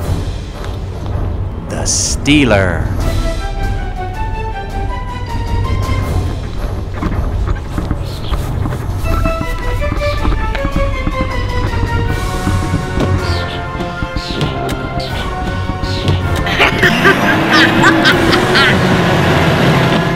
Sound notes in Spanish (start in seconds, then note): 13.7 risa maligna